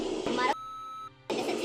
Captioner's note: beep